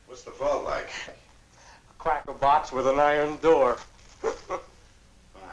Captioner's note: laughs